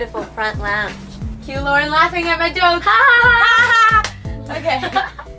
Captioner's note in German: gezwungenes Lachen